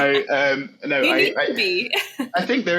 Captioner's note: laughs